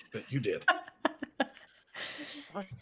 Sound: laughs

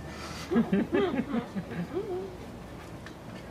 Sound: laughter

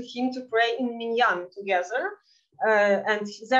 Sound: speaking in Yiddish

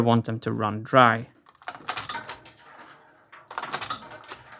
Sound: mechanism clicking

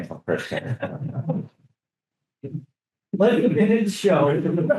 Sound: group laughing

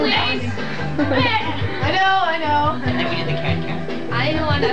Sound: various chatter

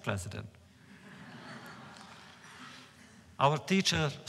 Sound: laughter

